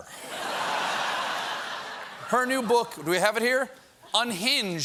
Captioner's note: laughter